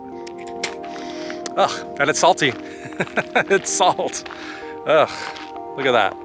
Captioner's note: laughter